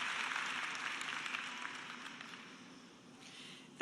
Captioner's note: cheers and applause